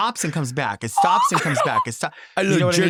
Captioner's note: laughing